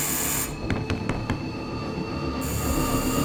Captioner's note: none